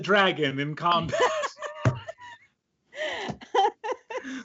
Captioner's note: laughing